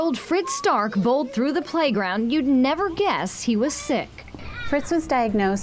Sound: laughing

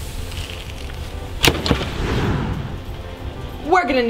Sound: door slamming

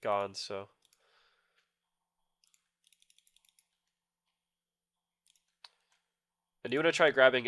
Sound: click sounds

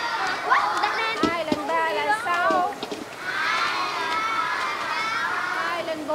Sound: Vietnamese

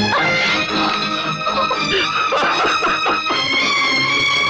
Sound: coughs; laughs

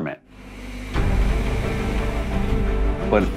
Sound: bus hissing

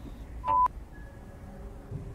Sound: device beeps

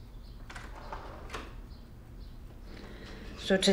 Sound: door opens

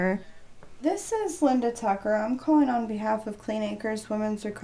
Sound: on phone

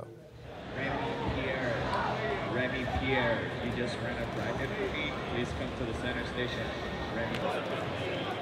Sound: announcer over loudspeaker. seriously, play Vampire Savior

